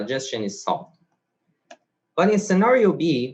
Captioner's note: mouse clicks